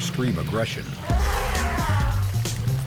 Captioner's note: cheering